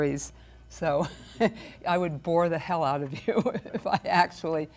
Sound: chuckles

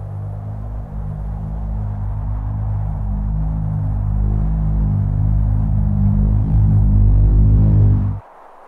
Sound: ominous pulsating sound; ominous pulsating sound growing louder; ominous pulsating sound stops

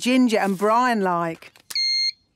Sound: beep!

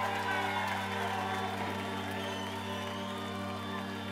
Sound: crowd cheering

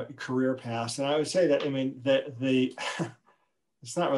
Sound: laughs

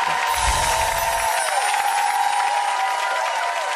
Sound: audience clapping

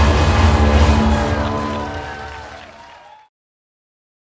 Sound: audience clapping

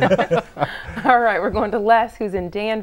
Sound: laughing

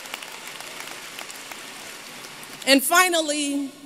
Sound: applause

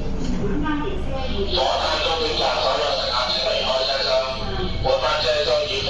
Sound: Cantonese

